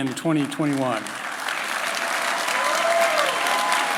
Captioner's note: applause